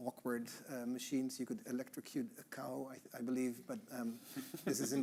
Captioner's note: chuckling